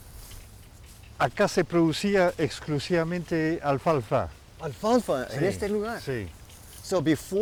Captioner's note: Spanish